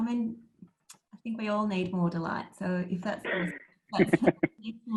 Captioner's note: laughs